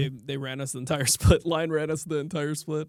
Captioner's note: chuckles